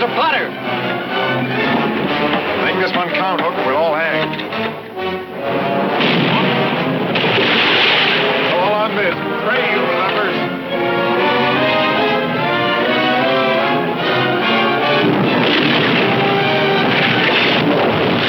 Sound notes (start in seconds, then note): 1.1 dramatic music; 5.8 cannon firing; 12.3 dramatic music; 14.9 cannon firing